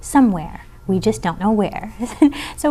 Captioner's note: laughing